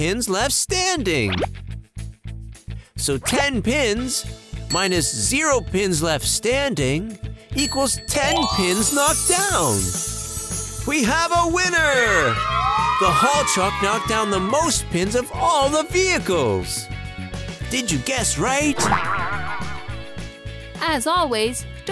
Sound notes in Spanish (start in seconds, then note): 11.5 Niños celebran